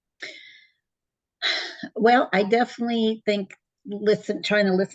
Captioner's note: exhales